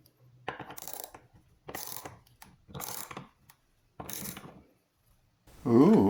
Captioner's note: ratchet sounds